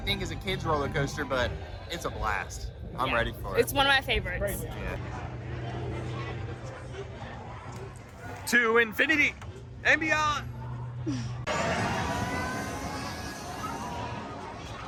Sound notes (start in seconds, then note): 11.2 ride whirs